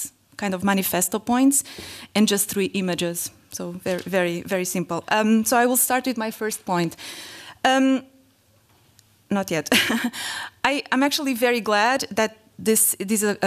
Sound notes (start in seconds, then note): 9.6 laughs